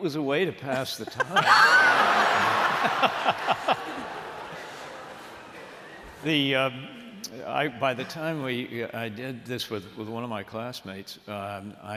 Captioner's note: laughter